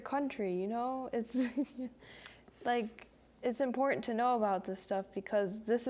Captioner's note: laughs